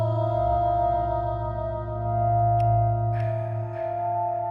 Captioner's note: soft, rhythmic panting